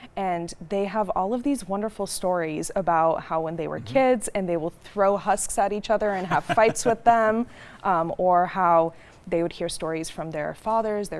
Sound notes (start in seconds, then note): 6.1 laughing